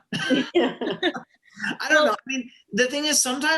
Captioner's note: laughter